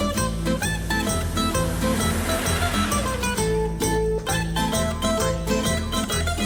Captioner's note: vehicle droning; upbeat music continues